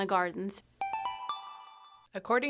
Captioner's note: chime